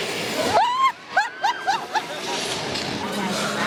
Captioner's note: laughs